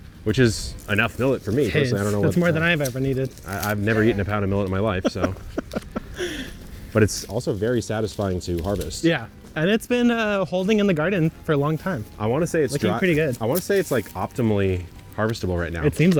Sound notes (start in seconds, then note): 4.8 laughing